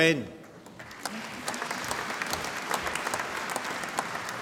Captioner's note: applause